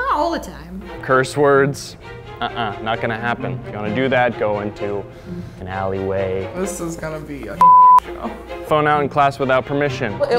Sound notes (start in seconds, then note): 7.6 beep